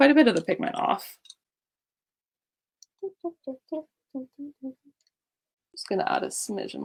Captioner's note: hums that animal crossing song again